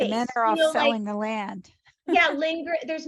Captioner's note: chuckles